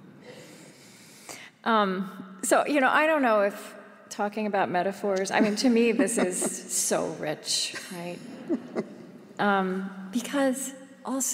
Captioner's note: laughter